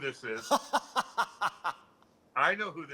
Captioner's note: laughter